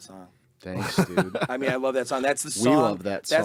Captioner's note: group laughing